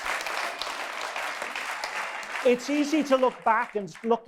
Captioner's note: audience applause